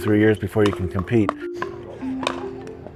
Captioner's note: court noises